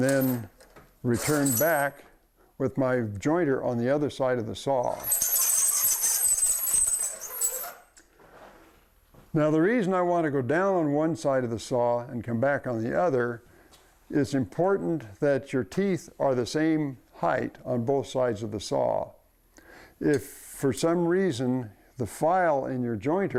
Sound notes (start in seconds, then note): 4.8 metal-on-metal scraping